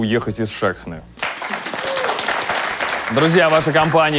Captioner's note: applause